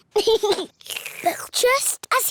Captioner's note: giggles; slurps